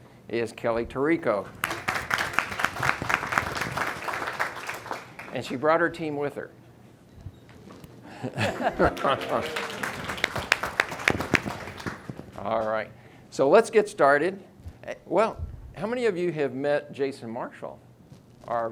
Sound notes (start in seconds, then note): 1.6 audience clapping; 8.1 laughing; 8.4 audience clapping